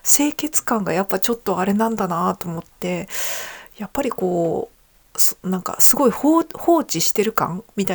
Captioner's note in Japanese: ため息